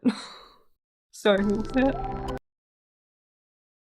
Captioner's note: sounds like a spaceship leaving